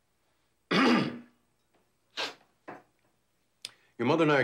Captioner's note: throat clears